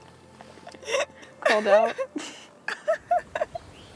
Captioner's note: can't stop laughing